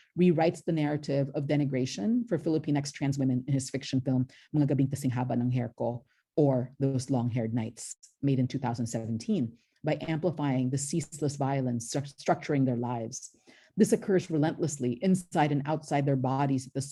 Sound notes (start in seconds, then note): 5.0 speaks in filipino